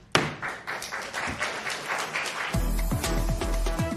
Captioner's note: applause